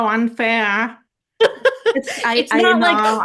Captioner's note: haha